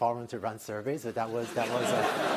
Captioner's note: laughter